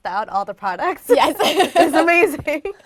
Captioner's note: laugh